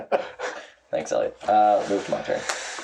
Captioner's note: laughing